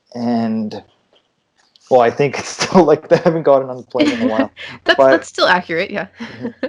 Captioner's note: laughter